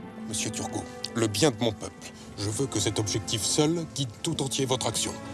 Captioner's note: Louis XVI speaking in French